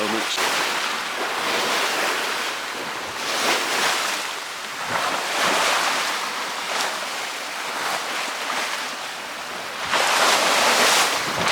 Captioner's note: wave Noise